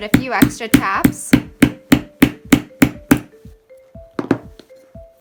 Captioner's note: heavy tapping